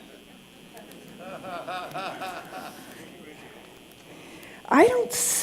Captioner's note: laughter